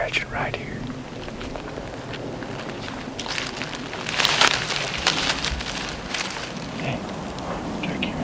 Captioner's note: walking